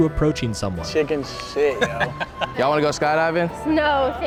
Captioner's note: laughing